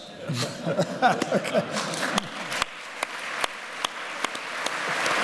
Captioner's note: laughter; applause